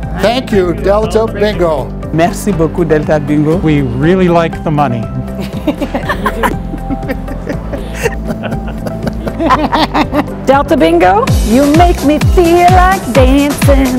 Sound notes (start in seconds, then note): 5.4 laughter